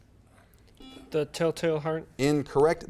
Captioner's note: buzzer beeps